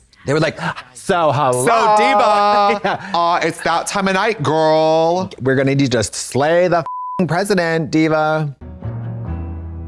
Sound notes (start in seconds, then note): 6.8 beep